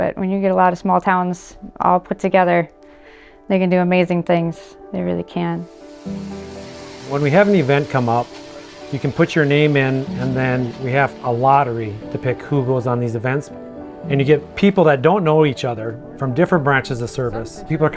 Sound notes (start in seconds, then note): 6.1 drill whirring; 6.1 soft music